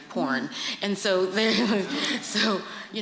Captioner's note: laughter